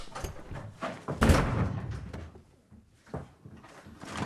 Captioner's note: door slams shut